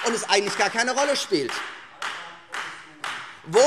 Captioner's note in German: Beifall Freie Demokraten